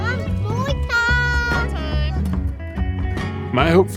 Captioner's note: upbeat music; children chattering